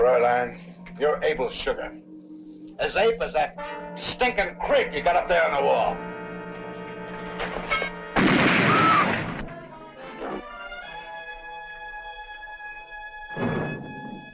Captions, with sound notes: - Fraulein, you're able sugar. As ape as that stinkin' crick you got up there on the wall. (gun firing) (woman screaming) (dramatic instrumental music)